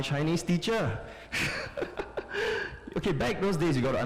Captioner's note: laughter